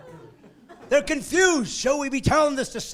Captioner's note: laughing